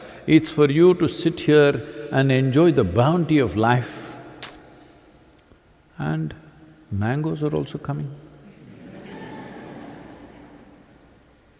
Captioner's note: laughter